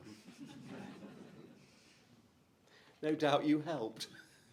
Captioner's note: crowd chuckles